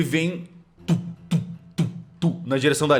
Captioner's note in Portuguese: Tump, tump, tump, tump